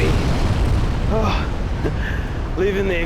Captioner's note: sigh